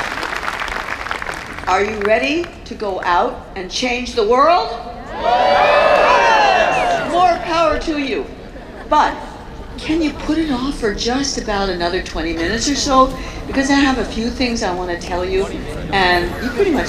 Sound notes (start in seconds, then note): 5.0 cheers